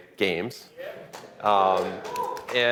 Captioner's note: applause